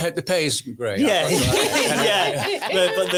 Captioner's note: audience laughs